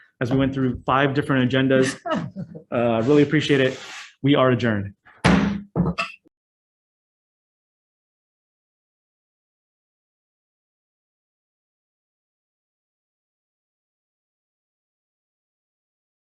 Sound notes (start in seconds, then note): 1.7 Senators chuckle; 5.2 gavel strikes